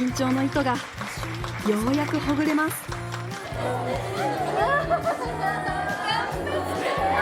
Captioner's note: applause